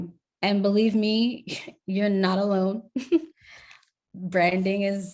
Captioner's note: chuckles